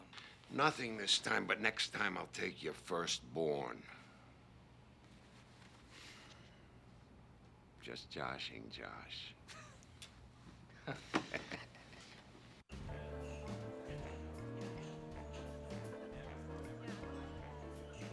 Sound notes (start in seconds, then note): 9.5 laughing; 12.7 jazz music